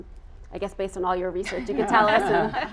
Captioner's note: all laughing